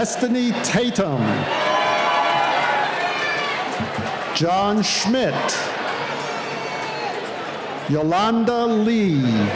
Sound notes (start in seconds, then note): 2.5 cheering